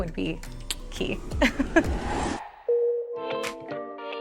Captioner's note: whooshing sound; gentle music